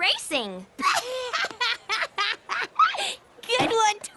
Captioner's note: laughing